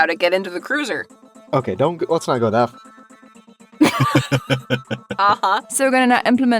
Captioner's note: chuckles